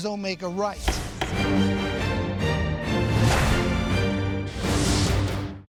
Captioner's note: dramatic music; gavel pounding